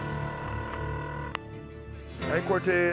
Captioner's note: phone ringing